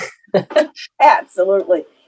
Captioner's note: laughs